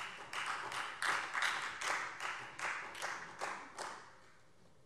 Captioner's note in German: Beifall Freie Demokraten